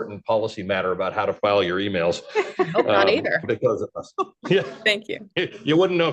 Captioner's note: laughter